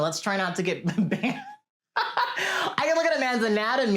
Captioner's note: laughs